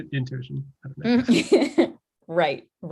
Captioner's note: chuckles